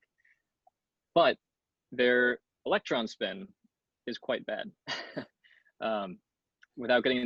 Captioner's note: chuckles